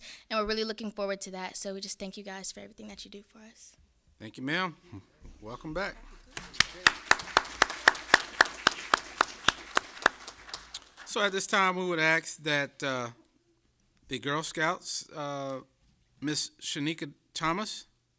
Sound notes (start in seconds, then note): 11.8 applause